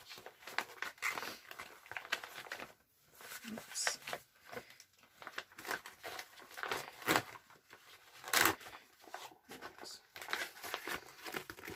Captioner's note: rattle rattle as it try to get it in the packet again